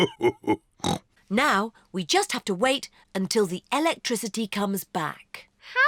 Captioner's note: laughs; snorts